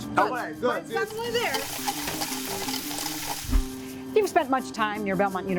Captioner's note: food sizzling